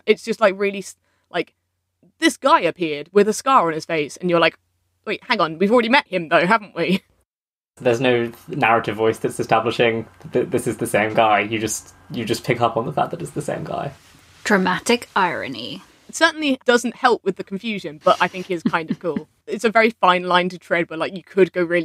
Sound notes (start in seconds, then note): 18.0 laughs